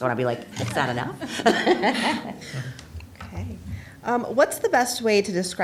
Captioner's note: laughter